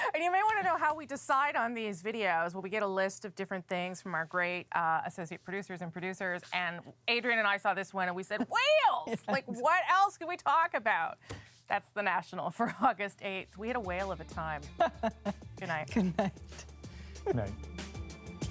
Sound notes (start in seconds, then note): 9.0 laughter